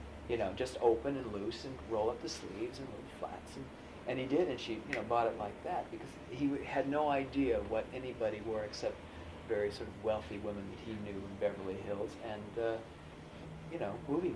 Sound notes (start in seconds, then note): 4.3 snaps fingers